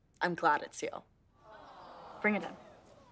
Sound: audience awwing

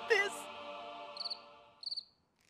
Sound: crickets chirping

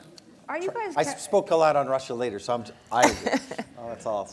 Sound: laughter

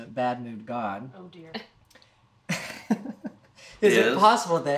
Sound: chuckles

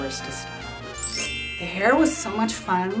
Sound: chimes

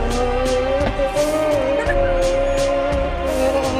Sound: grunting

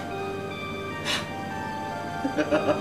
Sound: gasps; laughs

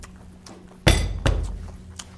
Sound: bang!

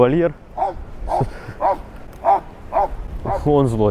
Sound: dog barking

